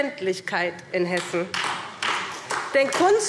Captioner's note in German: Beifall SPD